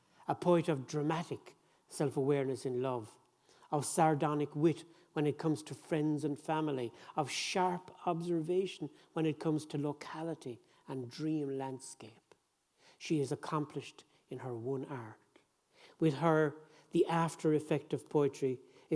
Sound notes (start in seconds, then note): none